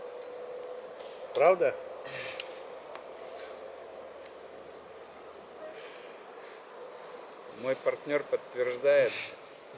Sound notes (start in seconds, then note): 1.8 long silence